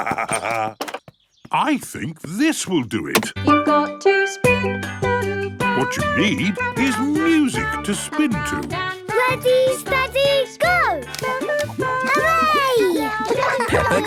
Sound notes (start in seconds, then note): 0.0 laughs; 4.0 radio